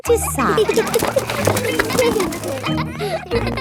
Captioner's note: kids giggling